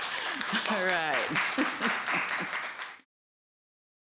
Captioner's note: applause